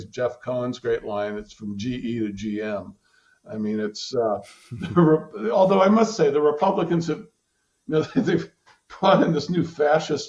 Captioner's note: laughter